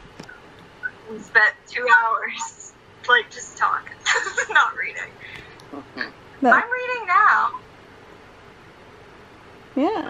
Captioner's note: laughs